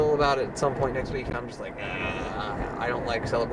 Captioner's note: groans